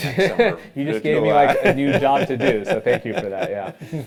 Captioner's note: laugh